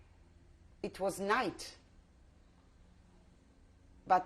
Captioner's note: pauses for 3 seconds